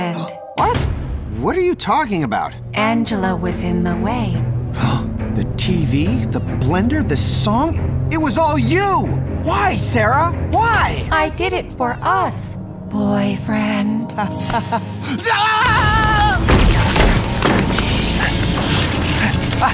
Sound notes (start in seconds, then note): 14.3 nervous laugh; 15.2 screams